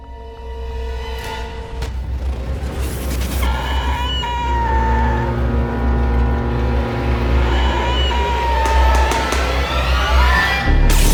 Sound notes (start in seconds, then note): 2.9 creature sounds; 8.6 gun shots; 10.8 screaming